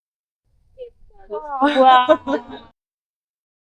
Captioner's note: laughter